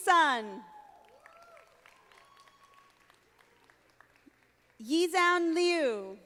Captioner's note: audience applauding